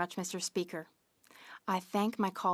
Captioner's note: speaking French